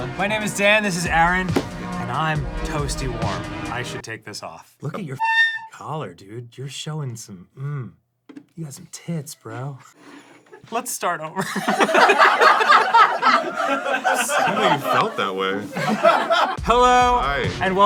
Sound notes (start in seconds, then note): 11.4 all laughing